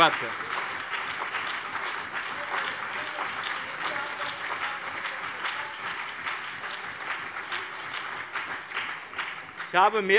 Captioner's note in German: Beifall